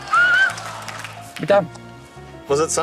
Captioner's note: whistles